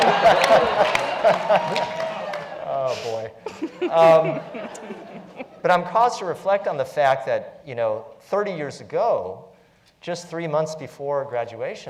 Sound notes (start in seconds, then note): 0.0 laugh; 0.0 applause; 0.0 laugh